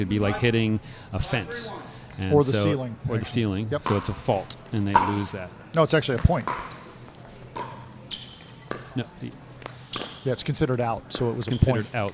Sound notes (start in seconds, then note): 6.1 ball being hit; 7.5 shoes squeaking